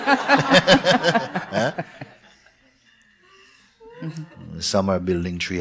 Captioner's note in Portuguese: risos